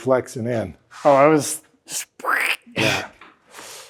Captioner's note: mimics squishing